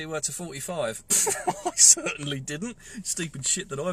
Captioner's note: laughs